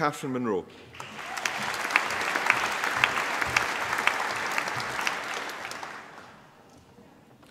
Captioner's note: applause